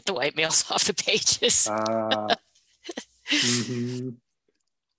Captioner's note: laughing